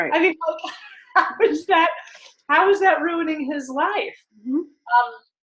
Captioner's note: laughs